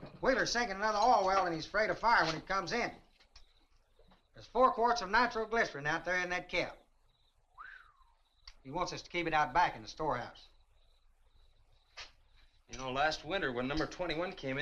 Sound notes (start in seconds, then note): 7.5 Chase whistles in surprise